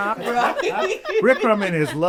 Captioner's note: laughing